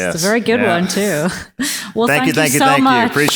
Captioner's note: both laugh